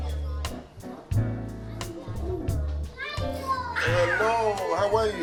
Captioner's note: soft music; children exclaiming